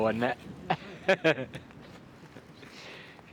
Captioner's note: laughs